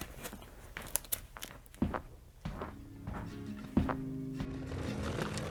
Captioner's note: footsteps tapping